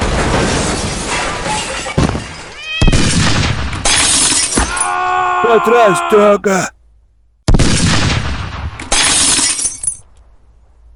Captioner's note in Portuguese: grito